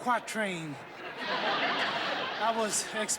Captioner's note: laughter